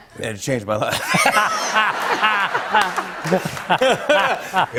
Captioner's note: laughter